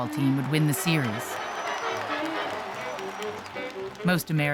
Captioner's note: crowd cheering